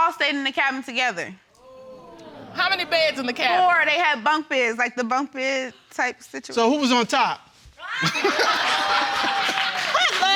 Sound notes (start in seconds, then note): 8.0 all laughing